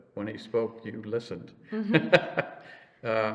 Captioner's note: laughs